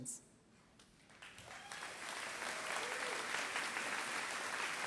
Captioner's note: applause